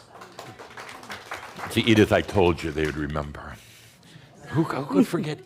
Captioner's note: some applause